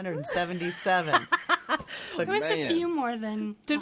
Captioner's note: laughs